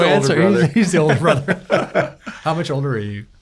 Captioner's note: laughing